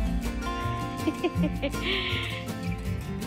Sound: giggles joyfully

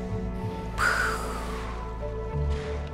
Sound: orca whale blows

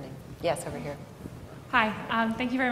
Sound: voiceover

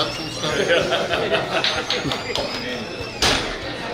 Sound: hahaha

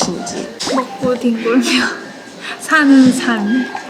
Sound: laughs

